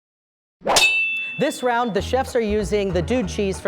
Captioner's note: knife slicing